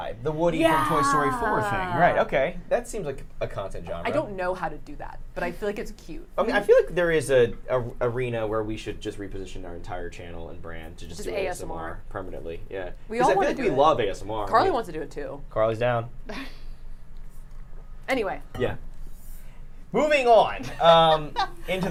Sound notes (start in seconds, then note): 16.3 chuckles; 20.8 laughs